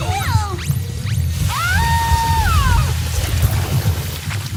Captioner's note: screaming